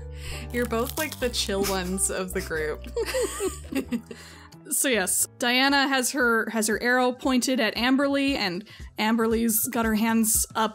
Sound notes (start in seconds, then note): 3.0 laugh